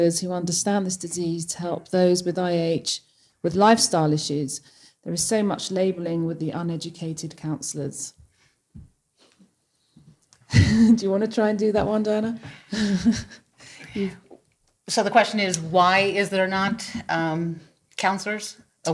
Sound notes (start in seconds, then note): 12.5 laughs